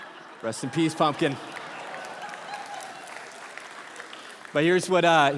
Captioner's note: congregation laughing and applauding